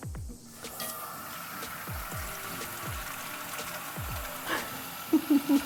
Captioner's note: upbeat music; water splashing; laughs